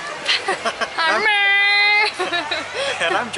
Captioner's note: imitating truck sounds; laughter